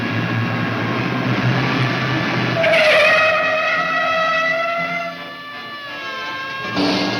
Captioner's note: tires squealing; siren blaring